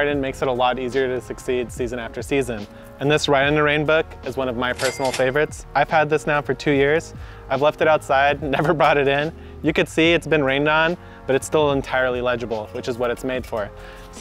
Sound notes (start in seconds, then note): 4.8 cash register rings